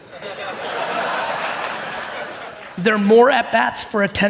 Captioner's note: audience laughing